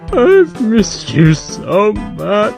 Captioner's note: exaggerated/Fake Crying